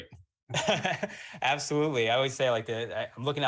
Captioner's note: laughs